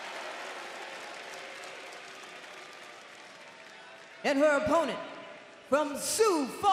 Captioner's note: crowd cheering